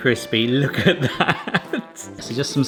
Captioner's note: laughing